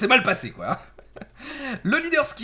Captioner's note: laught